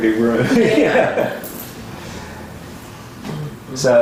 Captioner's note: laughter